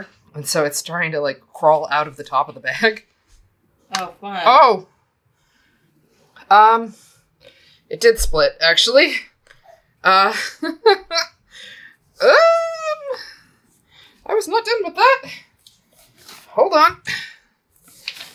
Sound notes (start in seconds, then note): 12.2 mild panic noise